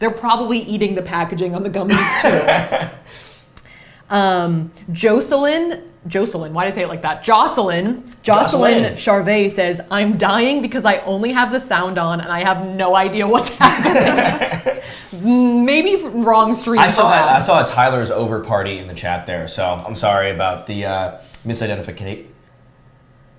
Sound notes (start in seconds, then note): 1.9 laughs; 13.4 both laughs